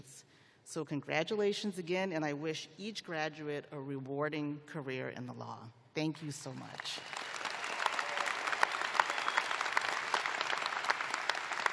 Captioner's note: applause